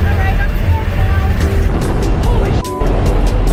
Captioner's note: sound of wind whipping by the door